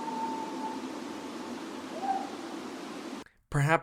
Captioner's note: creature continues howling